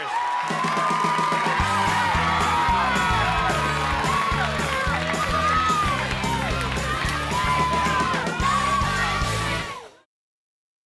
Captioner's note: crowd cheering